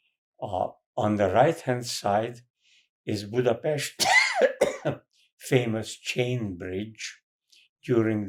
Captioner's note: coughing